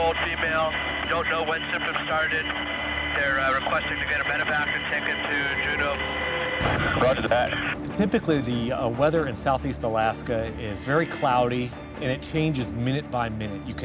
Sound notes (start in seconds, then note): 7.3 man On Radio